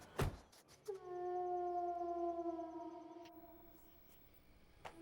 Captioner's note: wolf howling